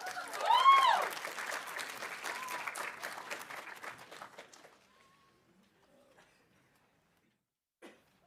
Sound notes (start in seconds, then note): 0.0 audience cheering; 0.0 audience applauding